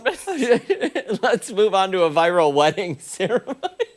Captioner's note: laughter